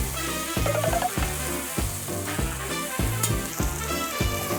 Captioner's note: frying chicken